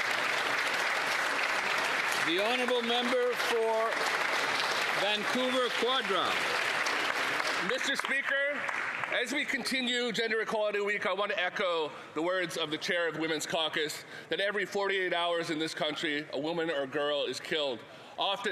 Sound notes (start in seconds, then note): 3.4 applause